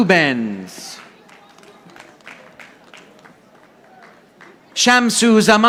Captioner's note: audience applauding